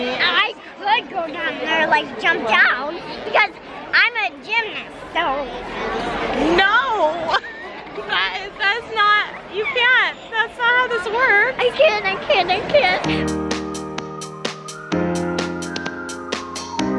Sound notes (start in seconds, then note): 7.7 child laughing; 12.9 upbeat music